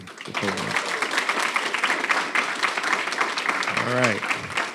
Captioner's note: audience applauding